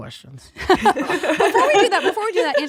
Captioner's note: laughing